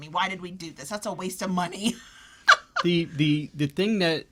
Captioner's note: laughs